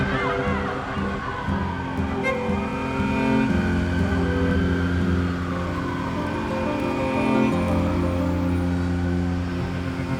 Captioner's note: distant sirens